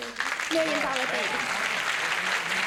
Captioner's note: applause